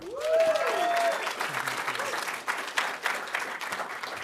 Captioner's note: audience applauding